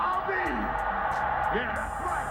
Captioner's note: crowd cheering